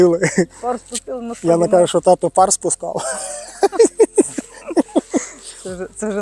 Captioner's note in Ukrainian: сміх